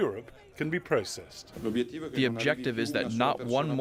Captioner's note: through translator